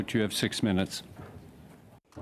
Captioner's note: speaking French